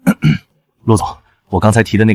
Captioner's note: cough cough